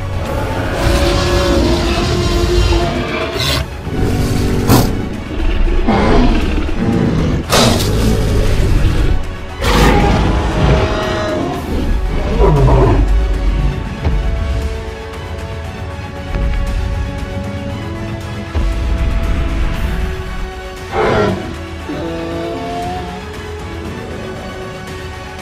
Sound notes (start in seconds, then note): 0.1 T-Rex roars loudly; 8.1 T-rex stomps off; 20.8 triceratops sounds